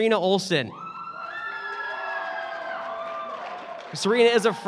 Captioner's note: cheering